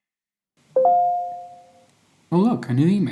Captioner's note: email notification